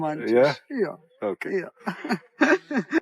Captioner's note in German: lachen